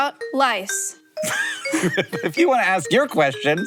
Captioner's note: bright music; both laugh